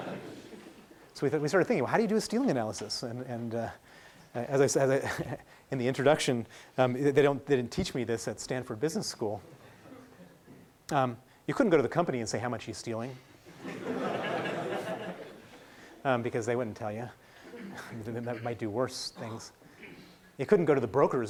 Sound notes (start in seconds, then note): 0.0 laughing; 13.6 laughing